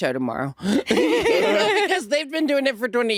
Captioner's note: all laughing